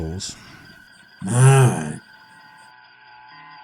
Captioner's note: grumbling